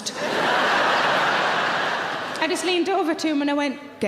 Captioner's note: audience laughing